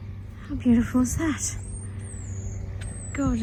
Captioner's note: high-pitched bird noise